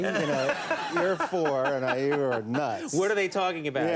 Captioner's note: Conan laughing